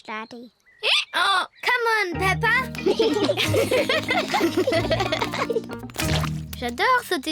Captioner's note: both giggle; brays